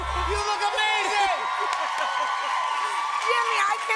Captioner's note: cheers and applause